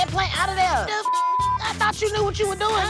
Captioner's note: beep